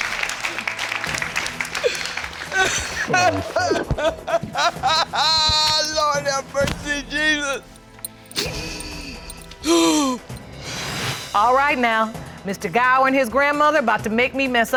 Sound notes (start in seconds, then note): 2.3 grandmother sobbing; 9.6 grandmother gasps